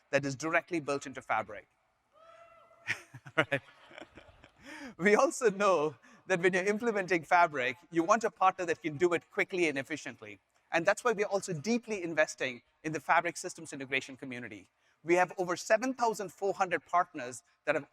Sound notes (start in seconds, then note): 2.5 audience members cheer; 2.8 chuckles